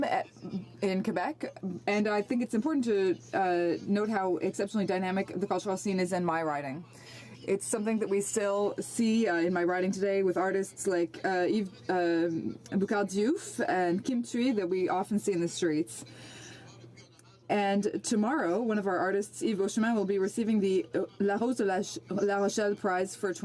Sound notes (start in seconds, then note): 17.4 speaking French